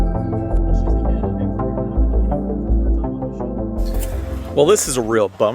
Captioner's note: radio announcer chattering